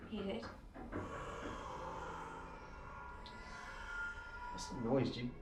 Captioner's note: distant sounds of creature/babies